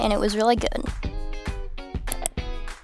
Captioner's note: mouse click